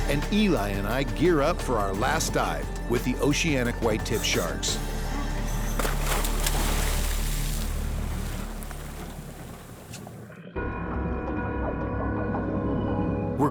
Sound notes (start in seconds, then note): 5.3 water splashes; 10.3 suspenseful music begins